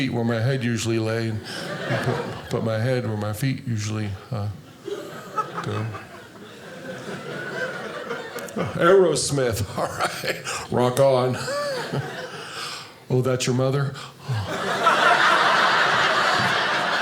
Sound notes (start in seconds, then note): 6.9 audience laughing; 14.4 audience laughing